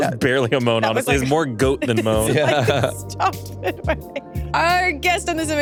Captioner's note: laughs; laughs